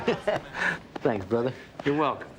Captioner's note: both chuckling